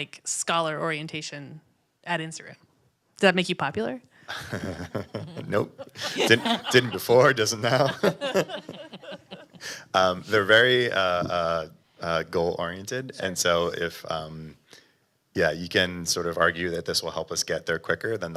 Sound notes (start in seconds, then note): 4.3 laughs; 7.9 panel laughing